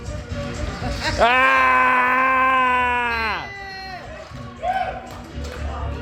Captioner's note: screaming